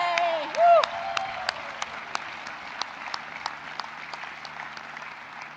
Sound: audience cheering and applauding

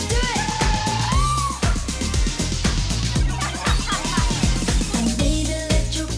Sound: singers cheering; singers chuckling

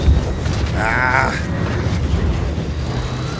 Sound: grunts

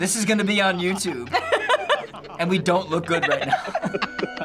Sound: laughing; Lao Che chuckling

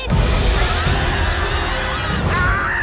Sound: screams; all screaming

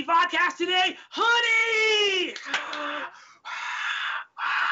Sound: exhaling loudly

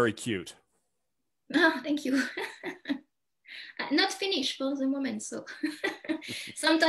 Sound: chuckles

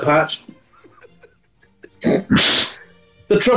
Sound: quiet giggling and sniggering

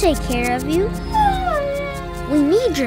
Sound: whimpering

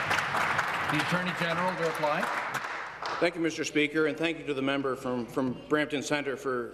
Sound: applause

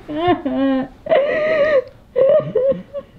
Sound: Heidi's cries fade

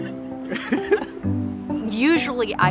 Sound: laughs

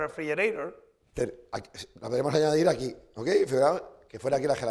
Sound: speaking spanish

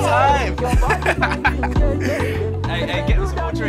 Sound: laughing

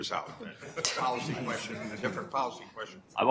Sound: laughter

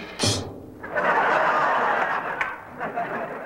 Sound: laughter

